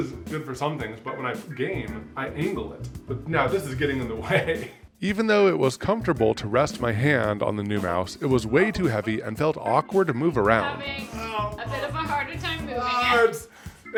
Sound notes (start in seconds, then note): 4.6 laughs